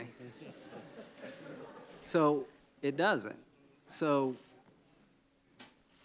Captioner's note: laughter